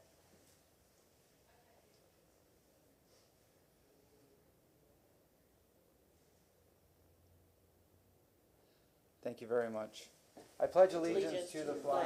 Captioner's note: moment of silence